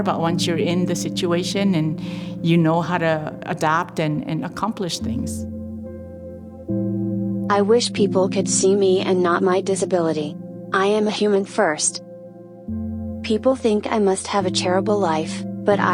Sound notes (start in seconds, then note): 6.9 automated voiceover